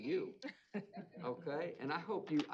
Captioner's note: laughter